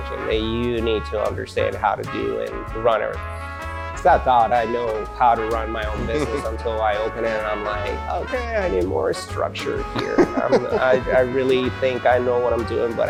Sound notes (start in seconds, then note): 9.8 laughs